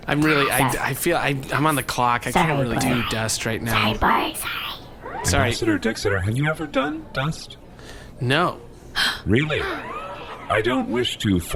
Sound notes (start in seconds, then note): 9.3 Bory gasps